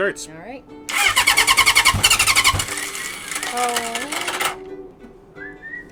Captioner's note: engine starting, stalling